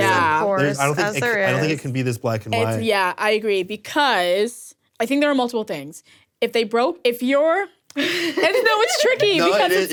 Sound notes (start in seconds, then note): 8.0 laughs